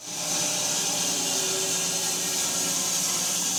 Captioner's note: saw buzzing